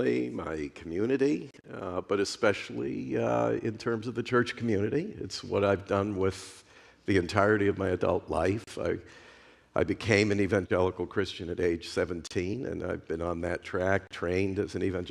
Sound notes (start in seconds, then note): none